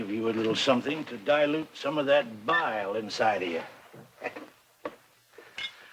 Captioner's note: chuckles